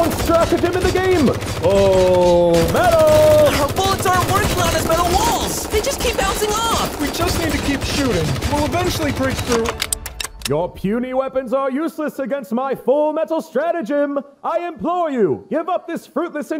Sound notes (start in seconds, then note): 10.0 guns clinking